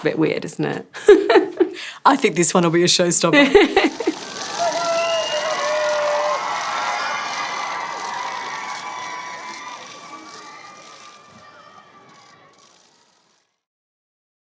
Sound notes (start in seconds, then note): 0.9 laughter; 3.3 laughter; 4.6 cheering